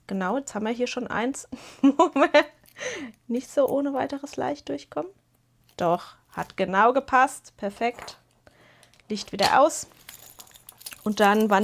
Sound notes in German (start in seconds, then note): 1.8 gelächter